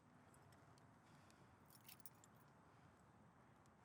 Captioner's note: keys jingling